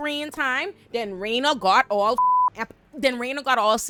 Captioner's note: beep